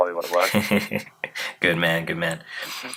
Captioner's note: laughing